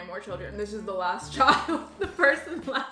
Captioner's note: laughs